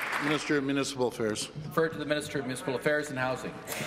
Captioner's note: applause